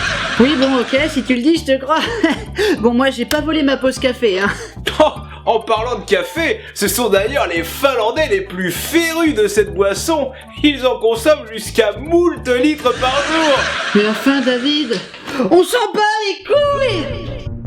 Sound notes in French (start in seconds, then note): 12.8 Rires de Sitcoms